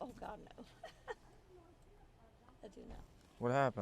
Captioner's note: laugh